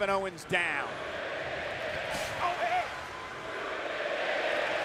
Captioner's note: audience chanting